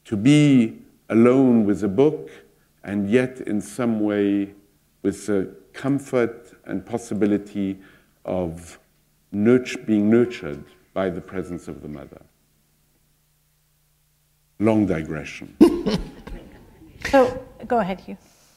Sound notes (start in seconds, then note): 14.0 laughter